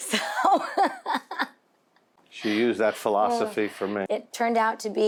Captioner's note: laughs